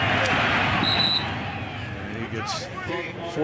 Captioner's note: whistle